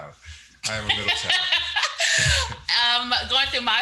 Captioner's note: laughs